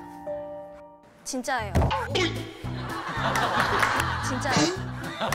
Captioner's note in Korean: 웃음소리